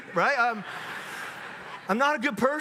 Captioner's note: audience laughs